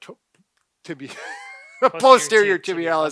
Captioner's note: laughs